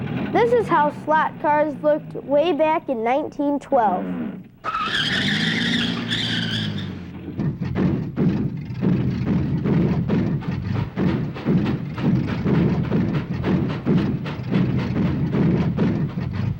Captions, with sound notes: This is how flat cars looked way back in 1912. (tires screeching) (loud banging) (train chugging)